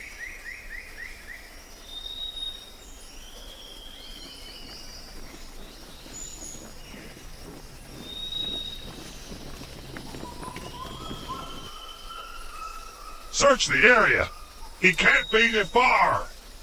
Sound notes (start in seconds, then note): 6.4 steps thudding